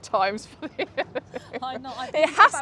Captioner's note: chuckles